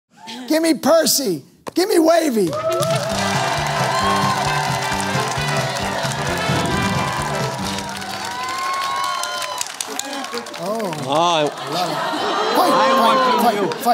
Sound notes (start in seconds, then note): 2.6 theme music playing; 6.2 applause